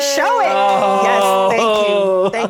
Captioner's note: congratulatory cheering